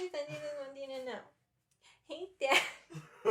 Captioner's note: laughter